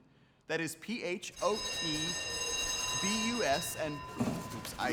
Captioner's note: school bell rings